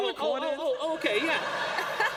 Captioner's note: laughter